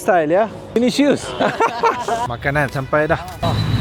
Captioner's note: laugh